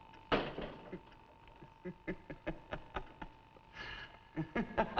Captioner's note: Mrs. Newless laughing